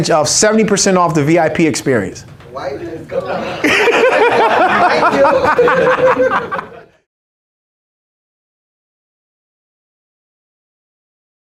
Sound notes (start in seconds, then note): 3.4 everyone laughs